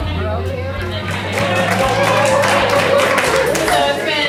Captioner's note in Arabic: تصفيق